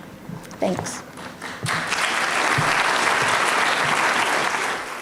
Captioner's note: audience applauds